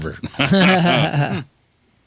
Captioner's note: laughing